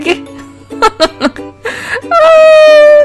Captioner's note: laugh